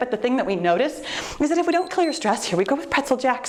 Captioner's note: timer beeps